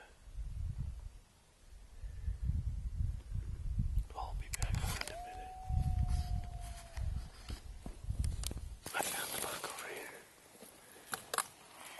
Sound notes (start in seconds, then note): 5.0 wolf Howls